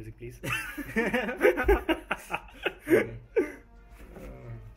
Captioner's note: laughter